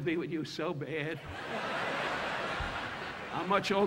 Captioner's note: audience laughing